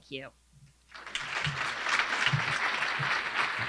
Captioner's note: applause